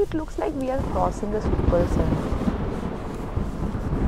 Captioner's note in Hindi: बिजली गिरने की आवाज